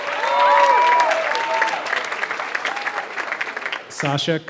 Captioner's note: applause